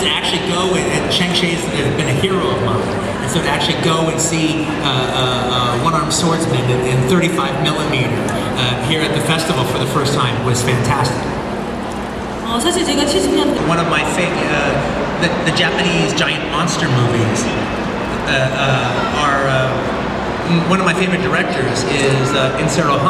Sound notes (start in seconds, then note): 13.2 speaking Korean